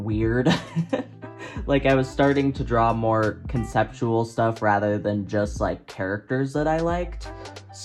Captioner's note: laughs